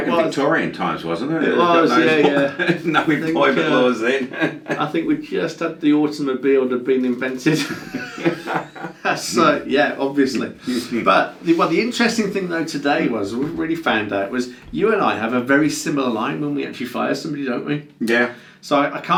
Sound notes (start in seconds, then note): 1.5 laughs; 7.5 laughs; 10.5 laughs